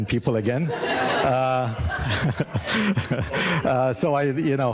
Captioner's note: audience laughing